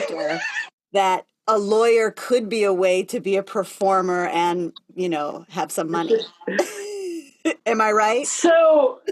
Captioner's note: laughter